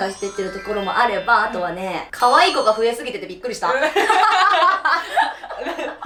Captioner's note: laughs